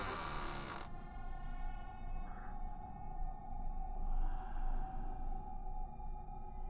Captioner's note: gentle tense music; monster rasping softly